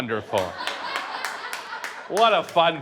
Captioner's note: audience laughs; audience applauding